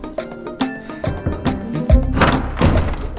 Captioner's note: knocking on the door